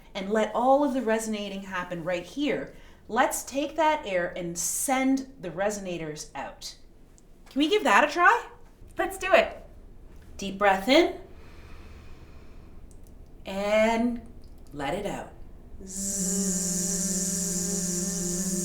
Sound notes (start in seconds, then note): 11.3 inhaling; 15.7 buzzing